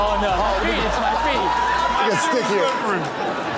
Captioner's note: crowd cheering